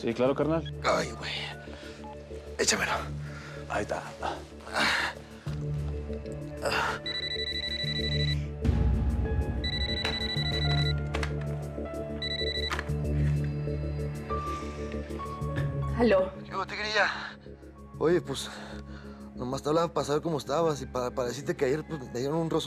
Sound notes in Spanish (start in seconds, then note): 12.2 Suena el teléfono